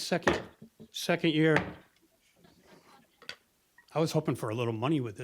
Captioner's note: thump